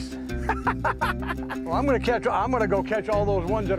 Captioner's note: laughter